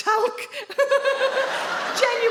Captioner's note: she laughs